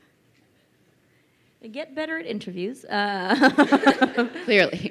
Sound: crowd laughing

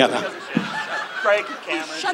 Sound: audience laughs

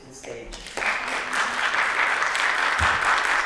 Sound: applause

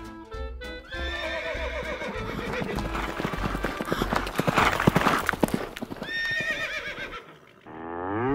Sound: hooves galloping; horses neighing; cow mooing

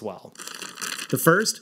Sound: crushing sound

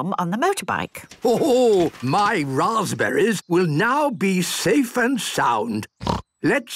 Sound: snort

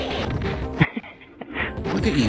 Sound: chuckles

